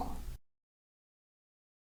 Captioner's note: silence